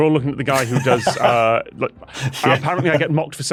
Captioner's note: laughs